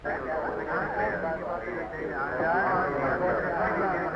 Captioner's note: chattering